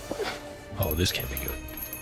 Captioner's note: doorbell jingles